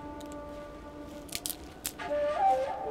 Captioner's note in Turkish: Dal kırılma sesi